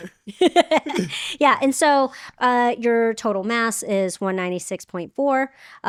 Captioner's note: laughing